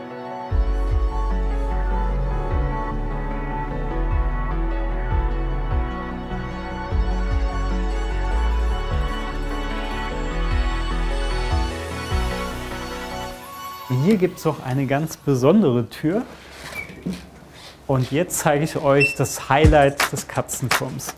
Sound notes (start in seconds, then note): 7.6 music becomes dynamic; 16.4 soft squeak